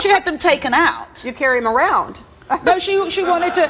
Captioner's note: laughs